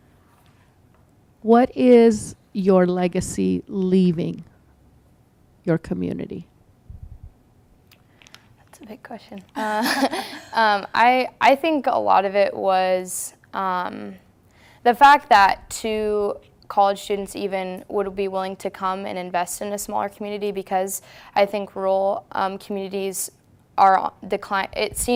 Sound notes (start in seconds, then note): 9.5 both laugh